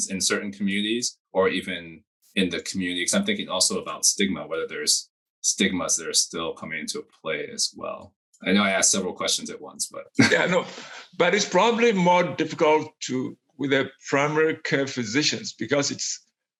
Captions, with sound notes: in certain communities or even in the community? Because I'm thinking also about stigma, whether there's stigmas that are still coming into play, as well. I know I asked several questions at once, but. (laughs) - Yeah, no, but it's probably more difficult to, with the primary care physicians because it's,